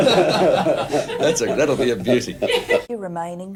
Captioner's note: laughs